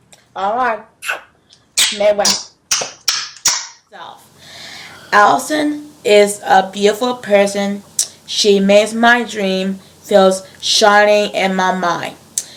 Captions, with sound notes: Alright *blows kisses* Alison is a beautiful person She makes my dreams feel shiny in my mind